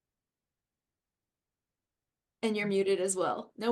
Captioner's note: pause